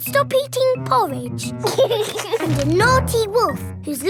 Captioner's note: george giggles